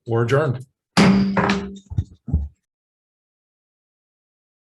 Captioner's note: gavel bangs